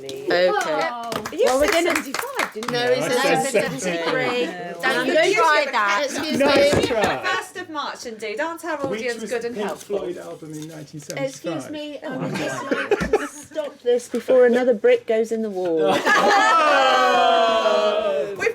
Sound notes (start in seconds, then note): 16.0 laughing